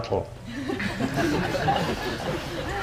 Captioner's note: audience laughing